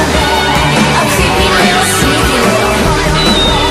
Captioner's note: boing!